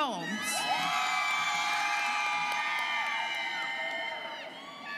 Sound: students cheering

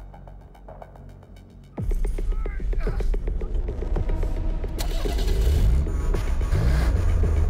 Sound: light dramatic music; Gabriel groans

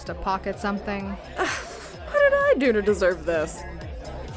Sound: scoffs

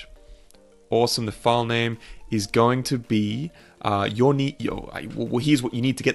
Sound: stammering

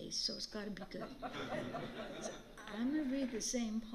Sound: laughter

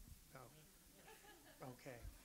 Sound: audience laughs

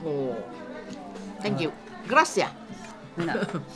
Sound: spanish

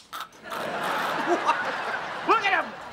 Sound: laughing

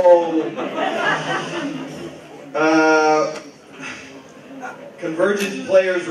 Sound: laughter

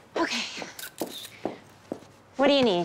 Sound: camera shutter clicking

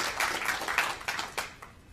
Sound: applause

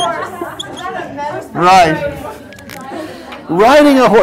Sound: laugh

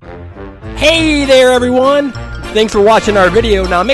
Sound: voiceover

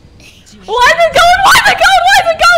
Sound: voice crack

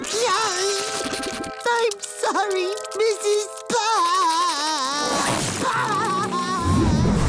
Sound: crying

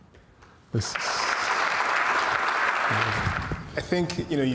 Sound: audience applauds

